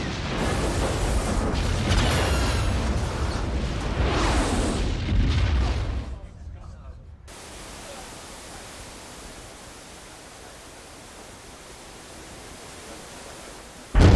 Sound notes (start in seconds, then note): 0.0 multiple large explosions; 3.2 flames roaring